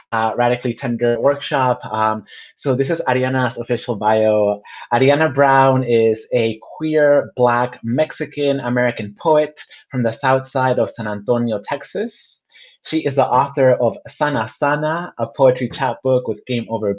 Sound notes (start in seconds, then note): none